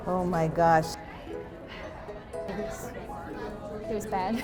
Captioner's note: sigh